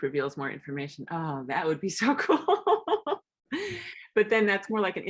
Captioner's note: laughs